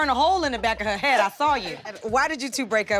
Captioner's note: laughter